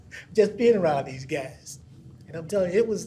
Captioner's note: laughs